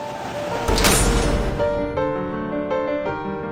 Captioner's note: metal door slams shut